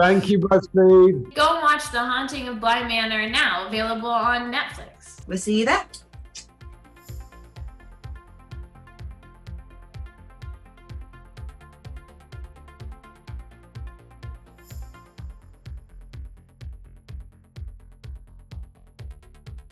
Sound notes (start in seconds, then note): 6.5 kiss; 6.8 soft upbeat music